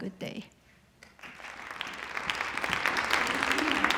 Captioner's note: applause